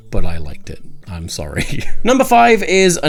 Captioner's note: laughing